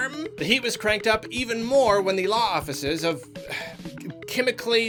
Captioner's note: sigh